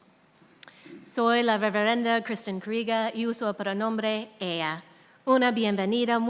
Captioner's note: speaking in a foreign language